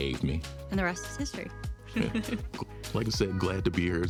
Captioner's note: laughs